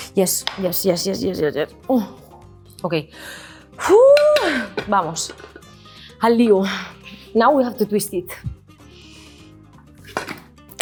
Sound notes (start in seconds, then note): 3.8 whoops; 5.1 speaks in Spanish